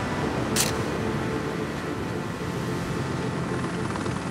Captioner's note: camera snapping